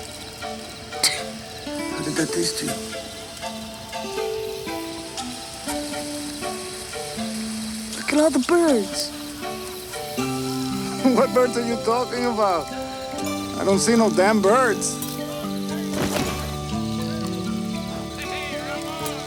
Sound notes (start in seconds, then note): 15.9 body thumps